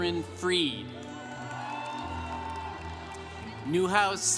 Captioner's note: congregation cheering